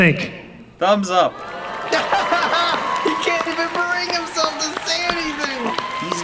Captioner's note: laughs in idol depression